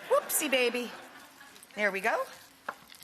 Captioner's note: audience laughing